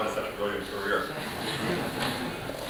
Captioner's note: laughter